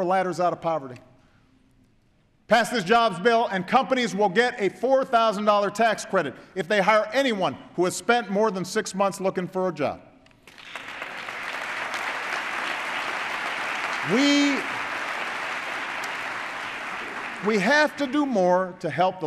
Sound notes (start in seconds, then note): 13.5 applause